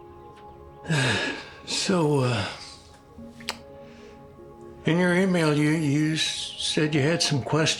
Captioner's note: sighs